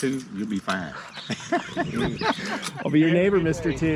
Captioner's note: all laughing